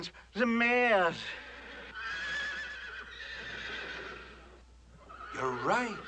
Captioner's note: horses Whinnying